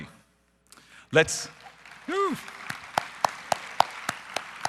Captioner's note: audience applause